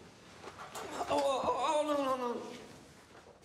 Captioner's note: groans